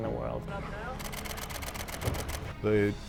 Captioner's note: camera shudder clicking